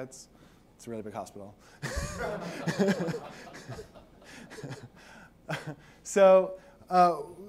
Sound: laughter

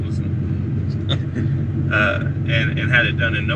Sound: chuckling

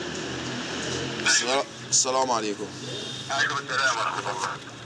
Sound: Arabic spoken audio

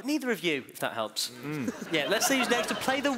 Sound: laughing

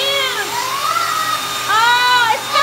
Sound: girls screaming

